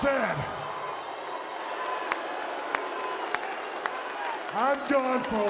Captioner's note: crowd cheering and clapping